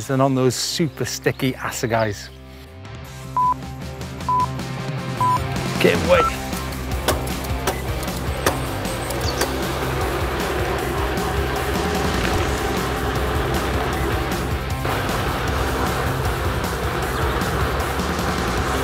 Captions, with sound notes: than on those super sticky Assegais. (upbeat music) (timer beeping) Can't wait. (upbeat music) (bike tires zipping)